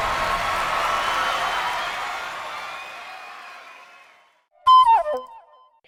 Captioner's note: cheers